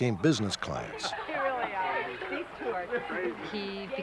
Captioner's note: indistinct chatter